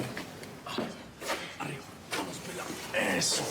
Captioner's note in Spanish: expresiones de esfuerzo